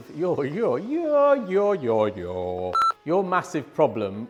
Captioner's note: beep